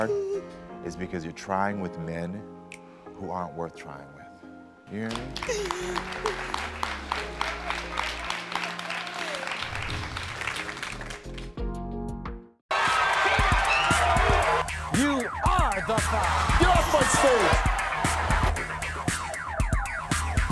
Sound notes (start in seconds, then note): 5.1 audience claps; 9.8 soft music